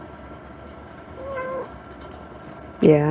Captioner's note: meow